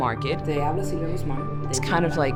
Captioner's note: speaking on the phone